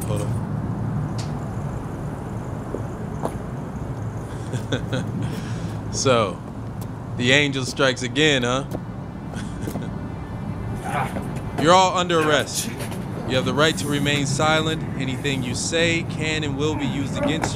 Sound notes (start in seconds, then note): 4.2 Allan chuckles; 10.8 man groans